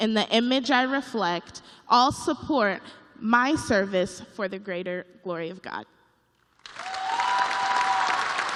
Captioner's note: cheers and applause